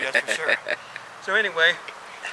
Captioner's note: cameraman laughing